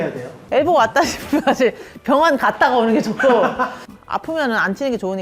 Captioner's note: laughs😄